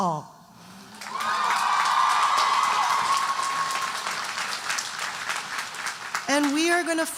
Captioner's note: audience cheering and applauding